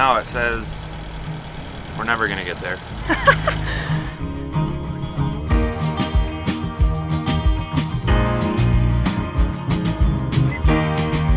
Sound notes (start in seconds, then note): 3.0 chuckles; 5.1 upbeat music